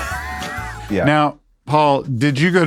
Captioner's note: laughs